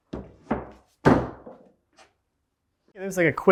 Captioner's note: wood bangs